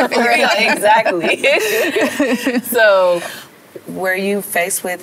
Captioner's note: laughter; overlapping chatter